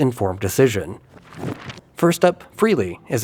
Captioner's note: cardboard crumples